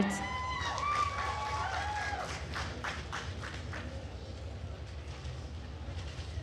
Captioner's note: attendees cheering and applauding